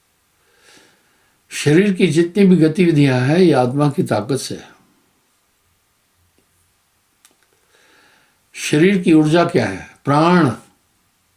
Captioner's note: breath